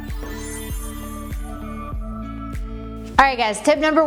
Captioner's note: transition sound; gentle music